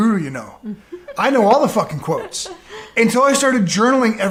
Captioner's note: laughing